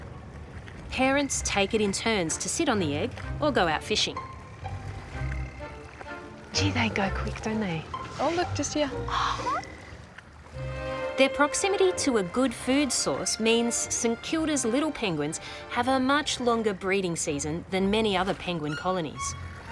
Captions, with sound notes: Parents take it in turns to sit on the egg or go out fishing. Gee, they go quick, don't they? Oh, look. Just here. (GASPS) Their proximity to a good food source means St Kilda's little penguins have a much longer breeding season than many other penguin colonies.